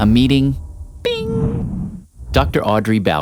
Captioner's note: bing!